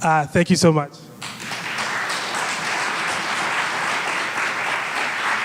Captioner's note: audience applauds